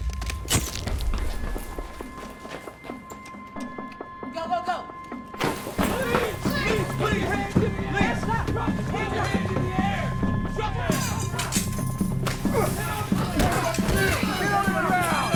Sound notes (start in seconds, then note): 0.0 footsteps; 6.2 shouting; 9.5 shouting; 10.6 scuffle; 14.5 shouting